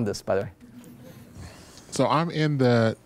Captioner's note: chuckling